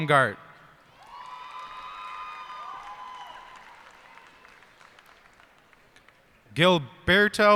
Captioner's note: cheers and applause